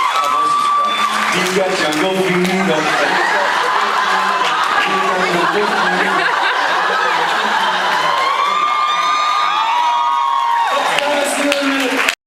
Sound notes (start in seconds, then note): 2.1 cheers, applauds; 4.4 laughs; 6.1 laughs; 7.9 laughs; 9.8 cheers, applauds; 11.8 cheers, applauds